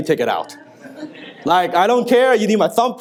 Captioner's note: audience laughs